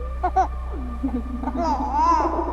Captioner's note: giggling; laughs